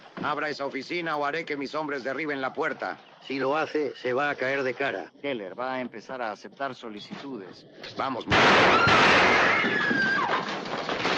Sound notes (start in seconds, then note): 8.3 firing twice